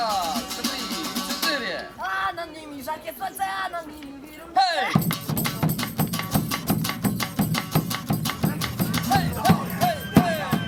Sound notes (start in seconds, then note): 2.6 singing; 7.9 shouting